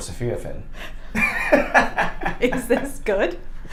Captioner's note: laughing